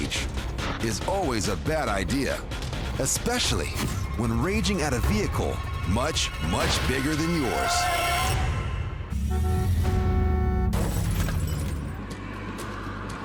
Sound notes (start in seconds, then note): 8.0 brake screeching